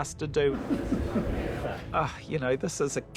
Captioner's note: chuckles